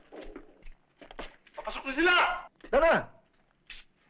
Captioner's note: non-english speech